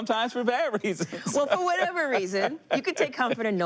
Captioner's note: laughter